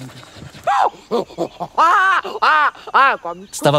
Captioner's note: baboon sound